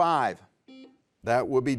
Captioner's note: buzzer beeps